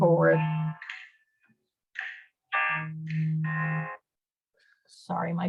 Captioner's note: phone Ringing